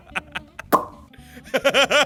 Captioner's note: laughter; lip smack; laughter continues